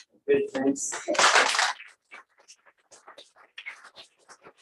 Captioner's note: applause